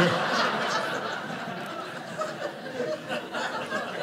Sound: audience laughing

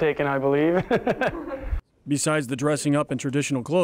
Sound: laguhs

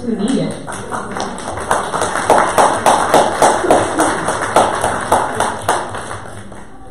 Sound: audience applause

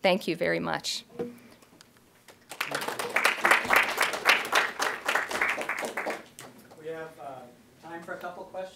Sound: applause

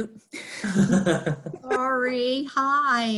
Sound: laughing

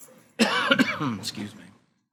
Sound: coughs

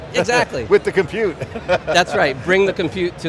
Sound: chuckles

